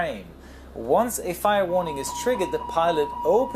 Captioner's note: aural fire warning sounds